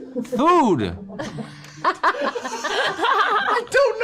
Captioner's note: slurred